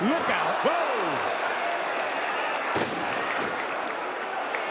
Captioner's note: audience cheering